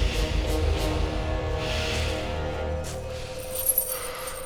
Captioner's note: breathing heavily